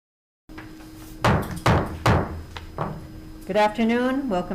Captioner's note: gavel pounding